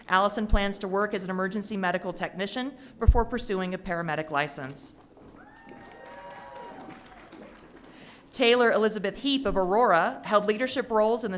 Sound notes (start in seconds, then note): 5.3 audience cheering